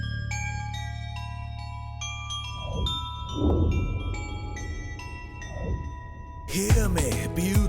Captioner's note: bells Tinkering